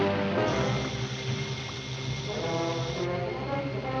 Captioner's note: water splashes; fuse hissing